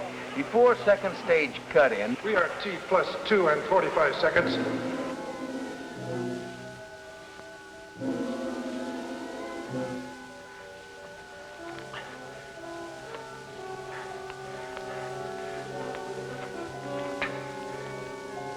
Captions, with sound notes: Before second stage cut in... - [Man on PA] We are at T-plus 2 and 45 seconds. (tense instrumental music)